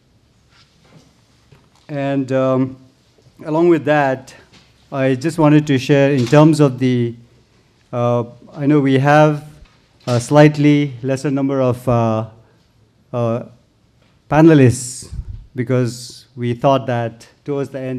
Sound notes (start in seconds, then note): none